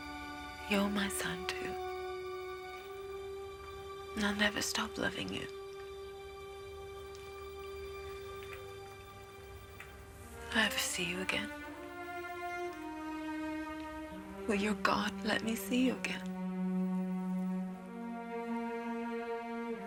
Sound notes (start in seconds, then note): none